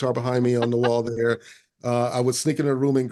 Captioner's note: laughing